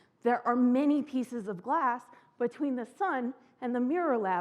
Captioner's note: none